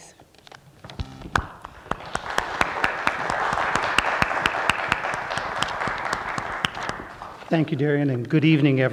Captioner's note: applause